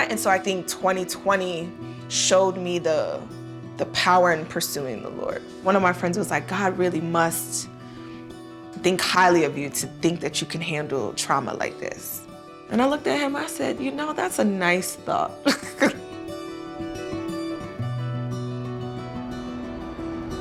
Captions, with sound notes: AND SO I THINK 2020 SHOWED ME THE POWER IN PURSUING THE LORD. ONE OF MY FRIENDS WAS LIKE, "GOD REALLY MUST THINK HIGHLY OF YOU "TO THINK THAT YOU CAN HANDLE TRAUMA LIKE THIS." AND I LOOKED AT HIM I SAID, "YOU KNOW, THAT'S A NICE THOUGHT," (LAUGHING). (GENTLE INSTRUMENTAL MUSIC)